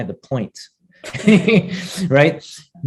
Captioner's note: chuckles